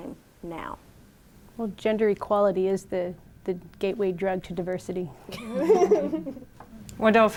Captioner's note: laughter